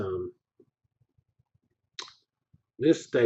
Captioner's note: pause